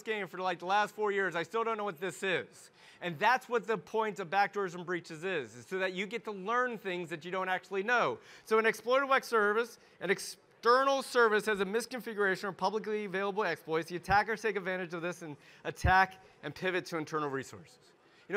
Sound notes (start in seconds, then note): none